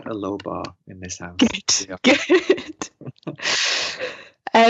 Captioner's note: both speakers laughing